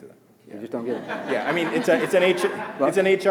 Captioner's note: audience laughing